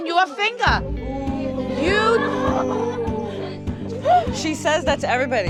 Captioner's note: laughter